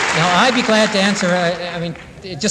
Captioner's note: applause